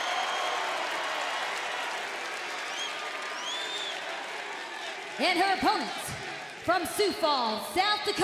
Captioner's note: cheers and applause